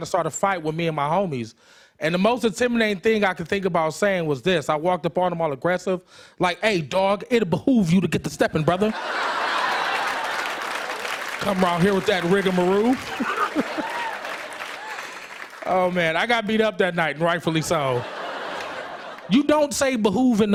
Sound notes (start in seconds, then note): 8.8 laughter; 12.4 laughs; 13.0 applause; 17.4 laughter